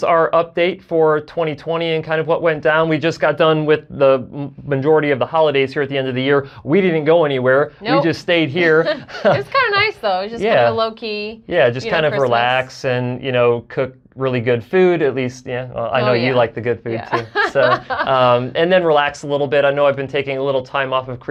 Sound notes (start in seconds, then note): 8.6 both chuckle; 17.0 laughs